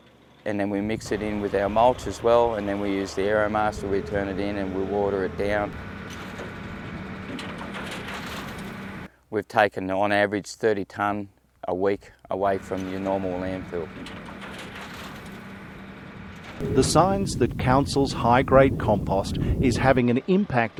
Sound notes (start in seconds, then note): 5.9 Aeromaster operation sounds